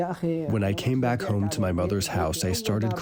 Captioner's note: through translator